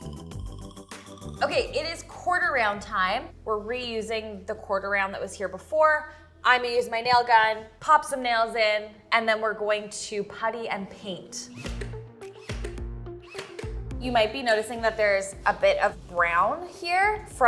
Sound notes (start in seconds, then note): 10.4 upbeat music; 11.4 nail gun humming